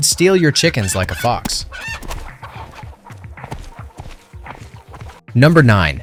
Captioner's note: chickens cluck